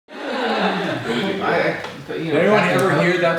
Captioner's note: group laughs